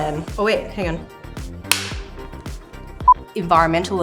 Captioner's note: clapper snaps